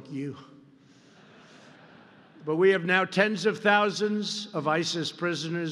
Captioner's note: laughter